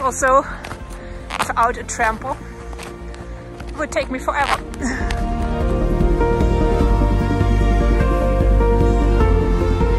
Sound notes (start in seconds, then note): 4.8 laughs; 6.0 happy music